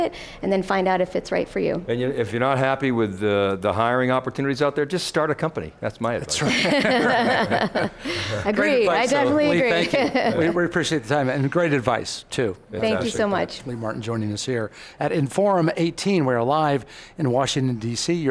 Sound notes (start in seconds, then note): 6.3 laughing together